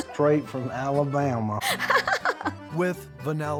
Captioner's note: chuckling